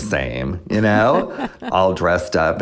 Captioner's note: laughter